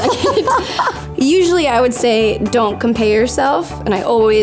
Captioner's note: laughing